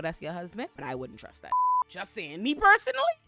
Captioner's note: beep